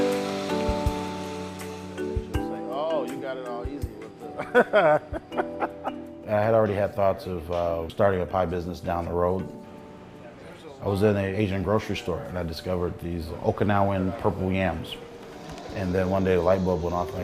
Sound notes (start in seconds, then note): 2.1 joking, chuckling